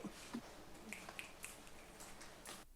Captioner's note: snapping fingers